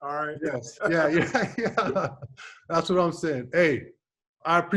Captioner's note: laughs